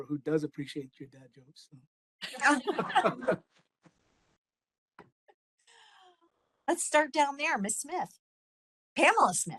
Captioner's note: laughing